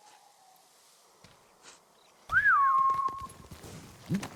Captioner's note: whistling